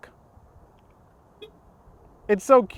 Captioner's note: soft beep